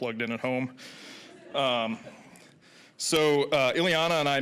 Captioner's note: audience laughing